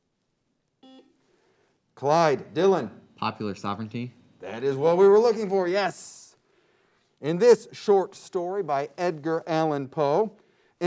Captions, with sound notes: (beep) Clyde, Dylan. - Popular sovereignty. - That is what we were looking for, yes. In this short story, by Edgar Allan Poe,